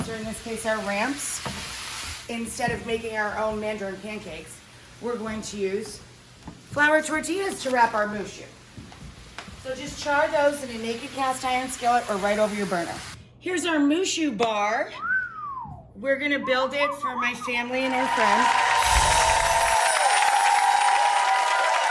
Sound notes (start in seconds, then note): 15.0 whistles; 17.8 cheering and applauding